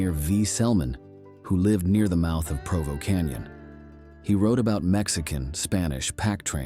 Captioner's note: Spanish